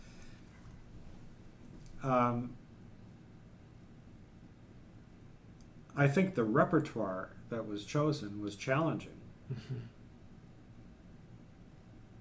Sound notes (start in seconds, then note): 7.0 laughs